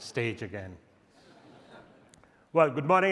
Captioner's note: audience chuckles